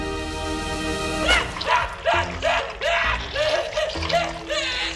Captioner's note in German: Schmerzensschreie